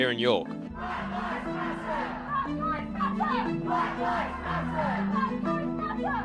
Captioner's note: crowd chanting